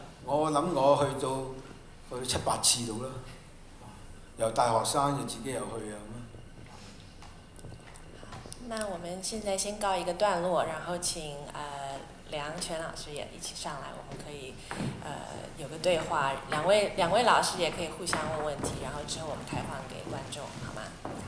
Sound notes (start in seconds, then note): 9.4 Mandarin